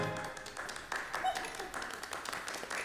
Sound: applause

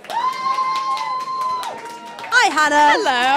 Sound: applause

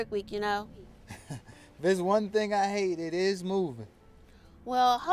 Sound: laughs

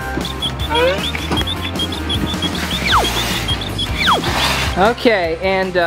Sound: cartoonish whooshing; cartoonish whistling

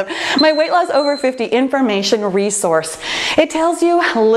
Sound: timer beeping

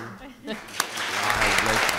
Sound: applause

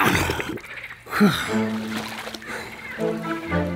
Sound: heavy breathing

